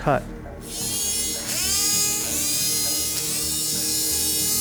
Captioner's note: saw whirring